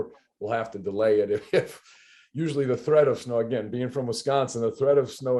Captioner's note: laughs